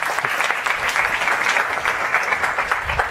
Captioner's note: applause